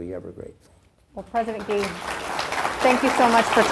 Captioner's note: crowd applauds